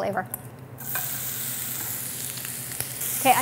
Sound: sizzling

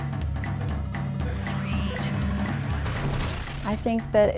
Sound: robotic voice

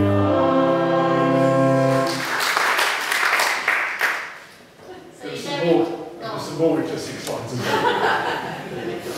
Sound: applause

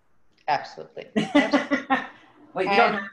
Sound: laughs

